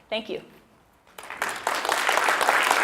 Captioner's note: clap